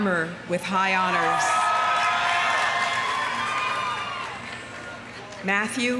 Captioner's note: audience cheering; audience applauding